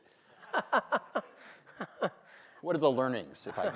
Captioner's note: laughing